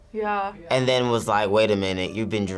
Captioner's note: none